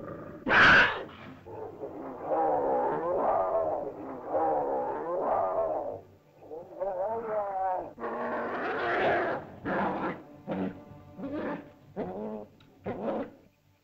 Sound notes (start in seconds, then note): 0.0 large animal growls; 0.0 ominous music; 0.4 animal screeches; 2.1 growling sounds